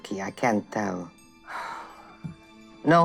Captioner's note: deep sigh